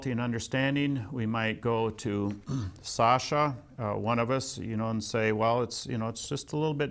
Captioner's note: clears throat